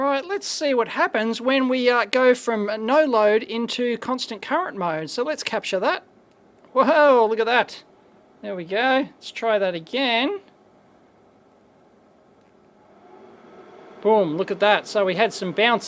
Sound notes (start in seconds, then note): 12.7 whirring sound increases